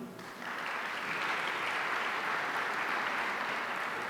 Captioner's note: audience applauding